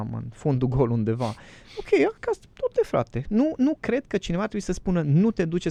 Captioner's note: snoring